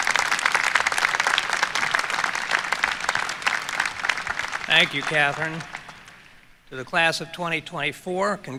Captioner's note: applause